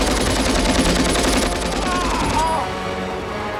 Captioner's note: groaning